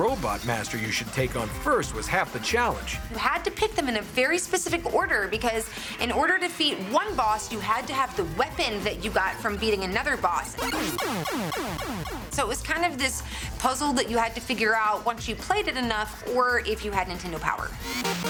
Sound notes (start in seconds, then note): 10.6 blast sound effect